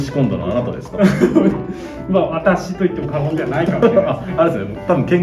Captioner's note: laughs